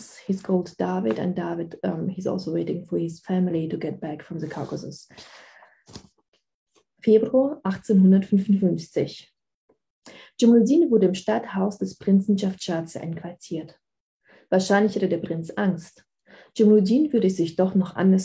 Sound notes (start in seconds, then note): 6.5 speaking german